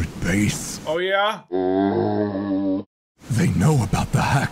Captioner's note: zombie sound